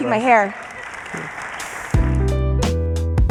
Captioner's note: applause; jazz music